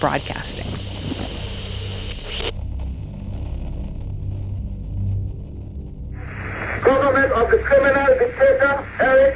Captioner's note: soundbite of archived recording